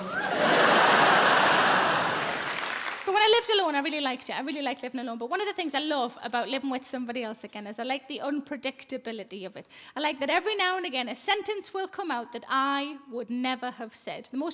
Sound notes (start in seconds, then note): 0.0 audience laughing; 2.2 audience applauding